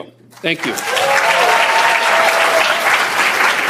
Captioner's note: cheers, applause